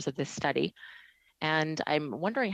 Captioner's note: speaking French